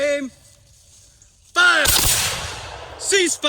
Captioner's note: 2 loud shots